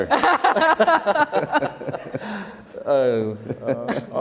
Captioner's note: panel laughter